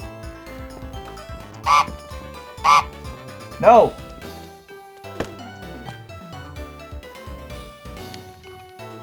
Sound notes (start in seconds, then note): 2.6 angrier honk; 2.6 angry honk